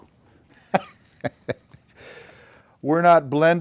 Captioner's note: laughter